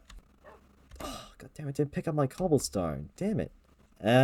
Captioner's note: sigh